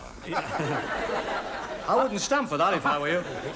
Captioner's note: audience laughs